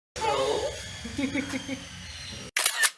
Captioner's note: laughter